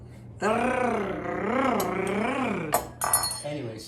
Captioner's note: rolls tongue